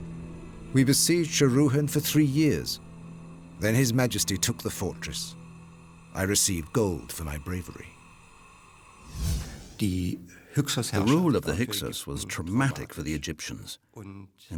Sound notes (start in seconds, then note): 9.4 speaking German